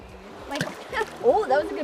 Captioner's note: plop